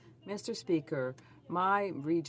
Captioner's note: speaking French